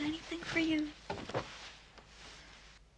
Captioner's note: rustling